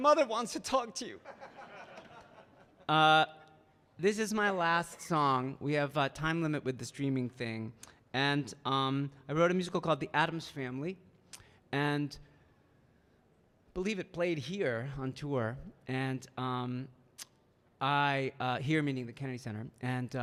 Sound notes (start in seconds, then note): 1.2 audience laughing